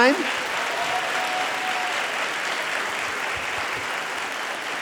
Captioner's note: audience applauding